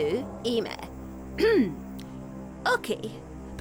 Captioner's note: clears throat